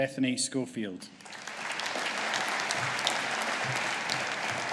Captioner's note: audience applauding